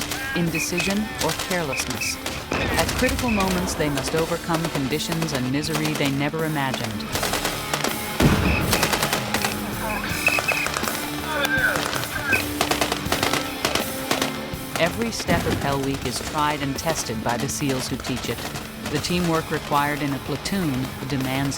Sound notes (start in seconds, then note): 7.6 gunfire and explosions; 11.5 gunfire